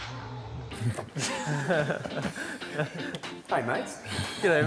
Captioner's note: all laughing